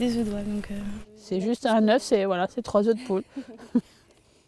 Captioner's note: laughter